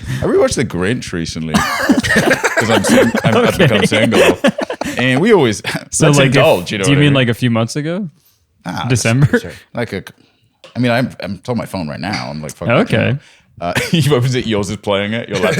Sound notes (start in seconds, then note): 1.5 laughter; 9.8 stutters